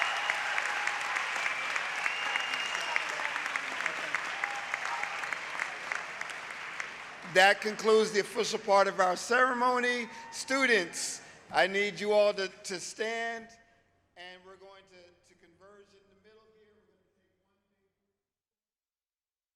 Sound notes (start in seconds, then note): 4.7 applause; 4.7 cheering